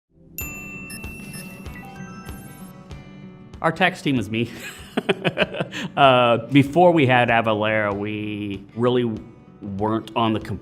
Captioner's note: laughter